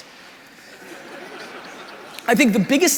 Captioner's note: crowd laughing